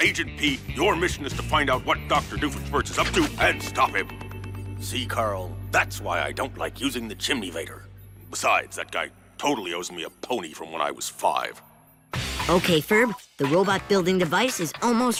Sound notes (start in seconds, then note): none